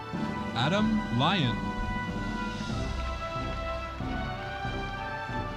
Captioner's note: audience applauding